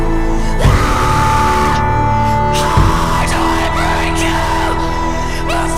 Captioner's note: screams